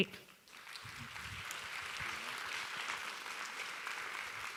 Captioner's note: audience applauding